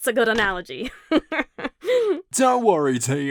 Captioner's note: cabby laughs